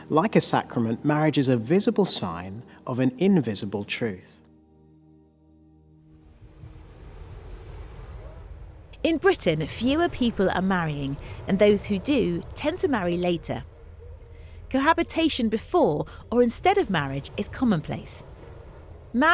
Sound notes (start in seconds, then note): 6.2 waves rushing